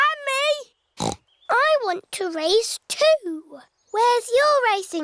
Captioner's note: snorts